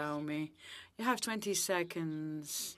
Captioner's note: speaking French